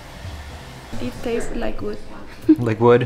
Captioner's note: chuckles